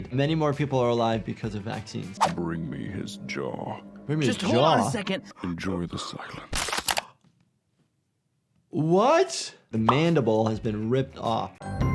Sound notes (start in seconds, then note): 6.1 character panting; 6.4 bones cracking